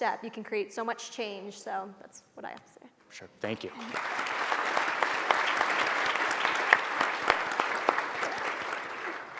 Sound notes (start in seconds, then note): 3.5 audience applauds